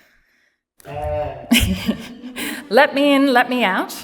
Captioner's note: cheers